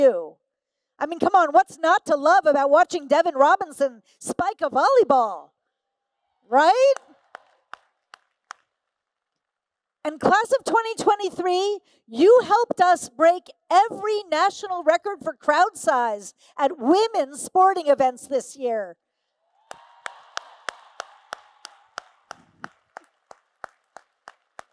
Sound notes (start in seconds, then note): 6.8 applause; 19.6 applause and Cheers